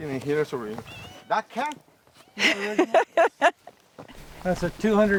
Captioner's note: laughs